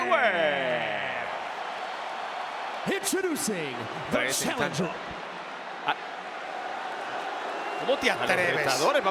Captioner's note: applause